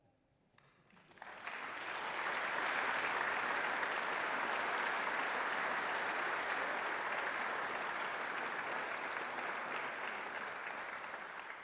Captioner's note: applause